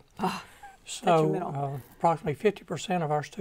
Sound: laughing

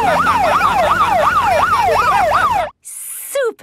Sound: siren wailing; laughing

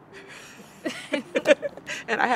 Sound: both chuckle

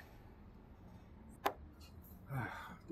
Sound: glasses thud on desk; Gus sighs

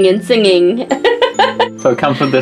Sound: laughs

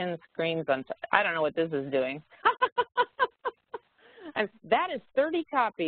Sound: laughs

